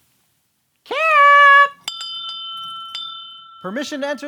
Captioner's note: bell rings